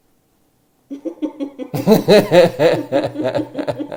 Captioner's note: laugh